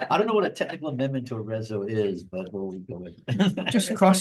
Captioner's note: laughs